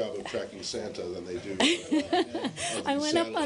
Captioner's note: laughter